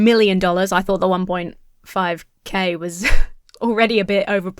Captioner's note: huffs